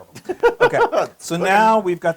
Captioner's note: laugh